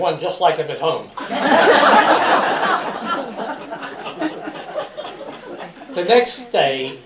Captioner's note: laughter